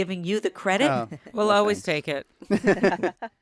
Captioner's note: laughter